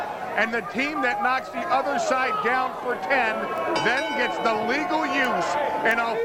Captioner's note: crowd cheering